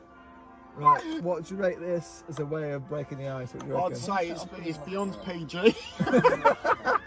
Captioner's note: laughter